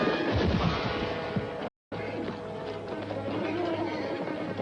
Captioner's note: whinnies